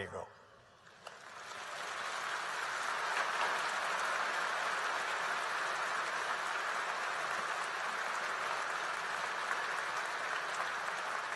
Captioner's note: applause